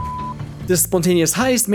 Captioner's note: beep